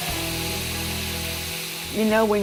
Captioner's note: sizzling